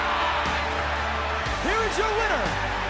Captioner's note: crowd cheering